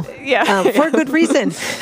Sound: both laugh

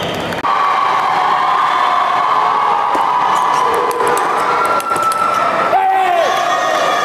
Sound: applause

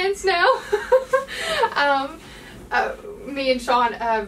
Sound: lady laughing

